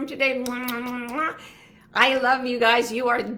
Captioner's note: kiss noises